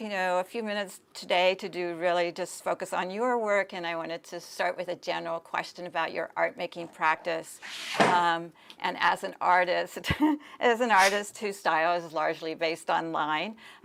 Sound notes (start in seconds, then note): 6.6 laughs